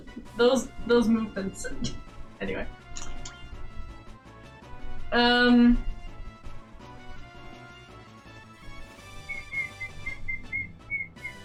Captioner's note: whistle